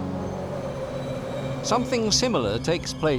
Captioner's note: heavy wind